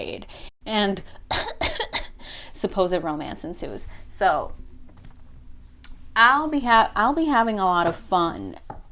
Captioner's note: cute cough